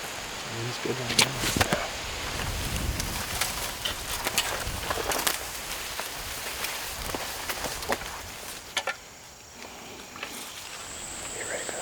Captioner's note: wind; insects